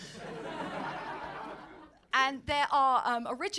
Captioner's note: audience laughing